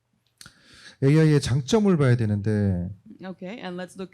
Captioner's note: speaking korean